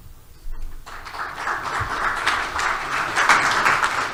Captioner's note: clapping